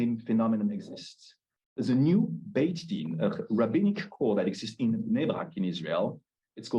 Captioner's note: Hebrew